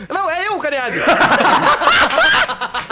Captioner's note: everyone laughs